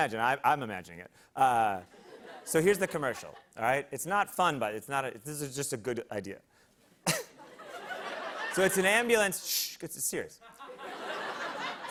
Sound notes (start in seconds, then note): 7.0 laughter